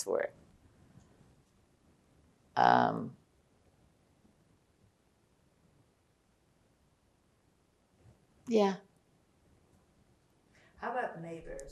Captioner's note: pauses 8 seconds